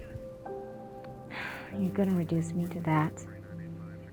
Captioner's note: sighs